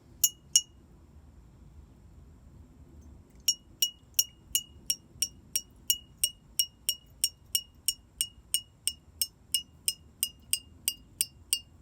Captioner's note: the sound of tapping changes as water is poured